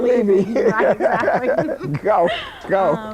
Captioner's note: laughing